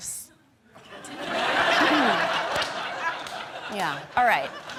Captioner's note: audience laughing